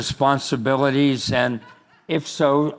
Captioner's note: crowd laughing